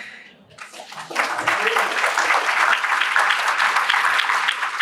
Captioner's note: applause